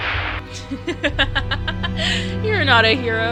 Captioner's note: evil laughter